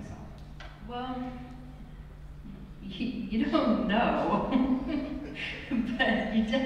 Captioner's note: laughs